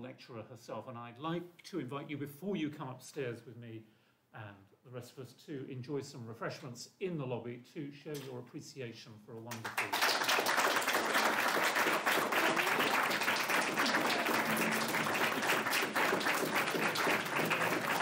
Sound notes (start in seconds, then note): 11.0 applause - drowning out speech